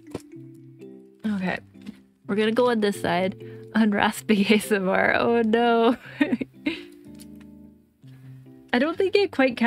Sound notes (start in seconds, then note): 6.2 laugh